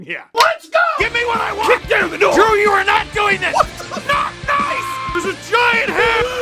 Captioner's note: screaming; Harry potter screaming